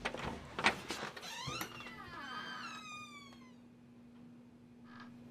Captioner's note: door creaks open